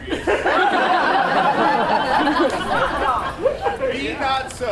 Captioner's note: audience laughs